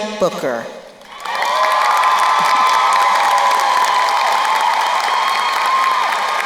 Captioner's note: crowd cheering and applauding